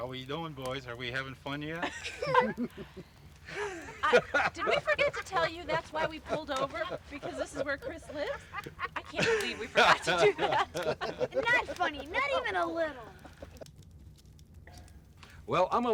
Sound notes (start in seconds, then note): 2.4 laughing; 8.9 laughs